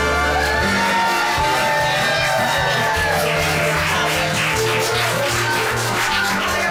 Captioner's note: cheering